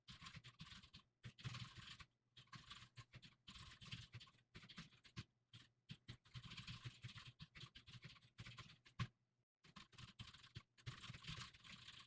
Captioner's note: typing sounds